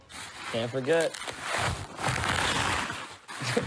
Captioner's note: plastic rustling